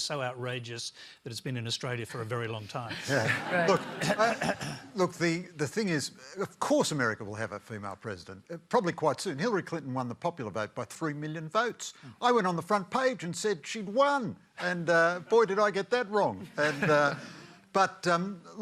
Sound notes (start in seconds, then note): 2.9 laughter; 16.4 laughter